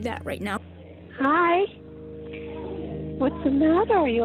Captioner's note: on phone